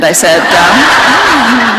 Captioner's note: laughter